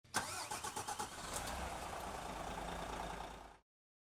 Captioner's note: engine Starting